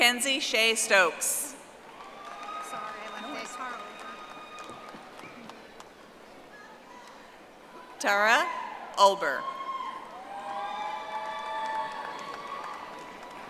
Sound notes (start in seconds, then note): 5.4 audience applauding; 13.3 audience applauding